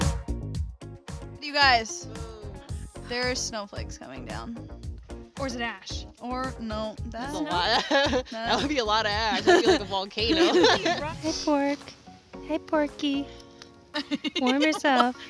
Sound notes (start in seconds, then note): 7.5 laughs; 10.3 laughing; 13.9 laughing